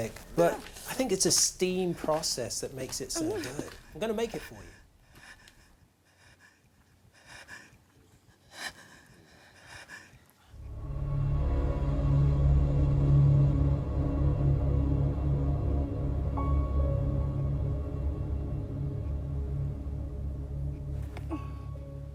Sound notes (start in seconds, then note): 4.8 whimpering; 10.3 suspenseful music